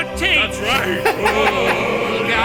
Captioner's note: laughing